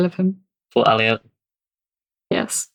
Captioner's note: laughing